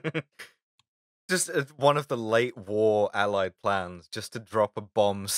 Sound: laughter

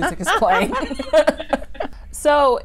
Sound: laughing

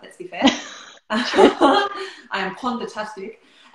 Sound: laughter

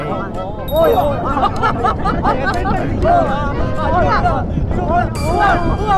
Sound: 10 legs fluttering

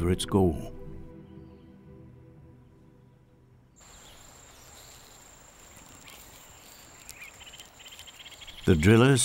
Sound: birds chirping

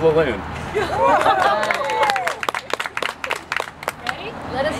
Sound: applause

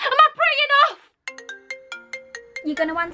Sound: phone rings

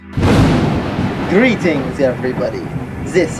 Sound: Dracula voice

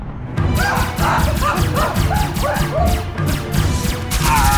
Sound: pew Pew Lasers and Scream Scream People

